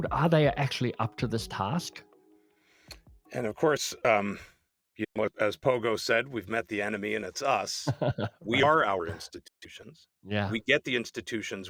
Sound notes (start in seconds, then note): 7.8 laughs